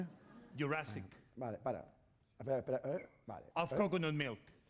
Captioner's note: speaking spanish